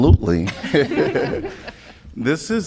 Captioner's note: laughter